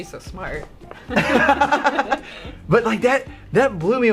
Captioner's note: laughing